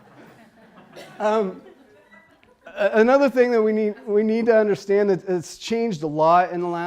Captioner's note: laughter